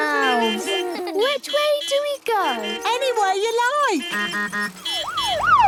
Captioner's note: laughter; honking, siren wailing